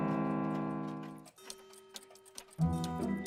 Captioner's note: clocks ticking